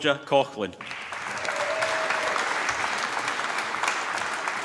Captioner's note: applause